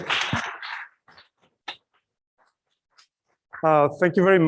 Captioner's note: applause